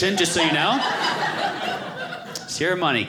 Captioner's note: audience laughing